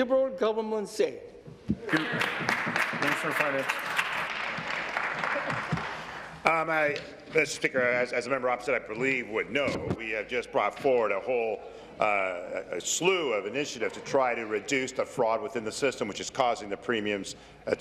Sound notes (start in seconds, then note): 7.3 applause